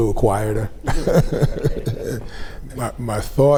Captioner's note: group laughs